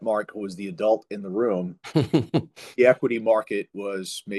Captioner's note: laughs